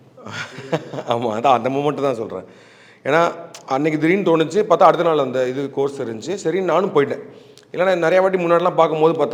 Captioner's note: laughs